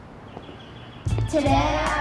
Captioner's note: feet stepping